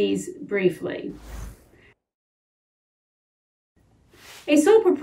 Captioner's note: title whooshing